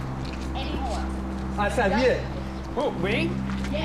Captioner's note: man speaking foreign language